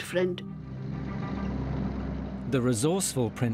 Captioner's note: dramatic music; engine humming